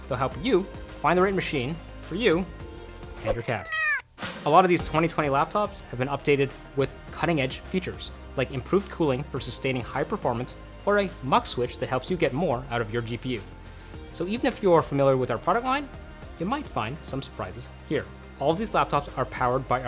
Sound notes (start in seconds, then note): 3.4 cat meowing